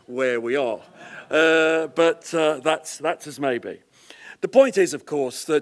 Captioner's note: laugh